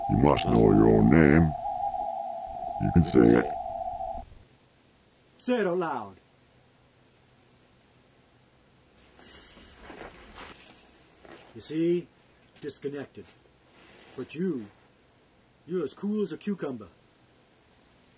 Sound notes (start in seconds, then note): 4.5 normal voice